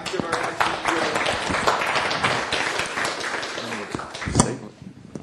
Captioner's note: applause